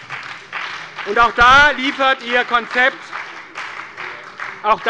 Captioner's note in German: Beifall bei der SPD und der FDP